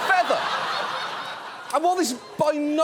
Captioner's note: audience laughs